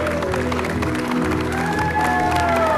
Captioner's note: long applause and music